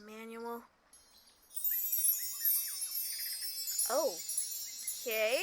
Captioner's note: magical sound effects